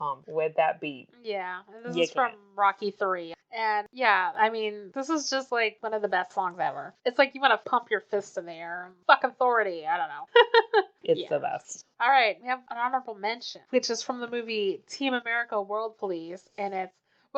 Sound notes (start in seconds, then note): 10.4 laughs